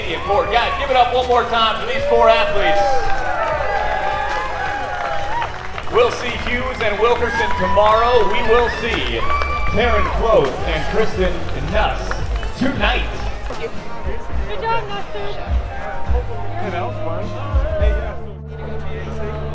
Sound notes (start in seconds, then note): 3.5 crowd cheers